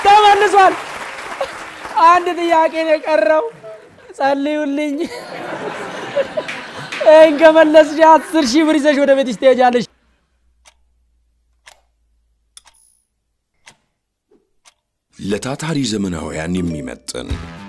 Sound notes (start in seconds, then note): 4.9 laughter